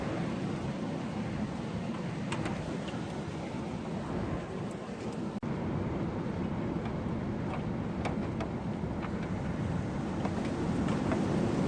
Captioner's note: wind noise